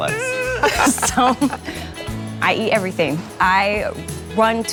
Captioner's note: laughs